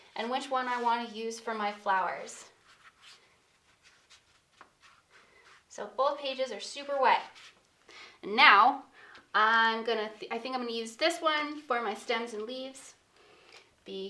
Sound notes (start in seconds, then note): 3.4 paintbrush scratching